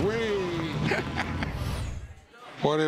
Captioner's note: laughter